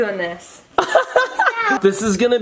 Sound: laughing

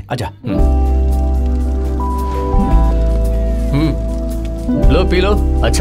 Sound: fire crackles

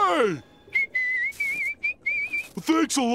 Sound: whistling

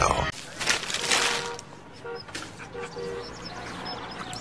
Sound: horn honking; birds chirping

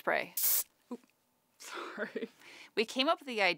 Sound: can hissing; laughs

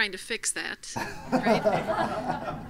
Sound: laugh

